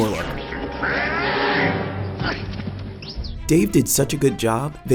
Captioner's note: Yoda yelling